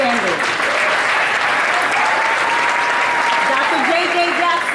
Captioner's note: audience applauding